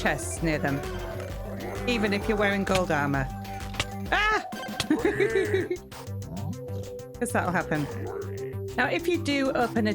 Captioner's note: laughing